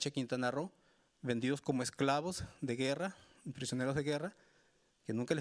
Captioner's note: speaking Spanish continues